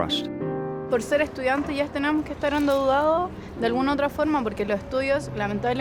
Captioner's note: speaking in foreign language